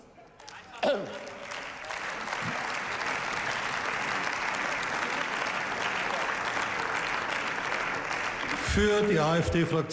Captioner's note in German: Beifall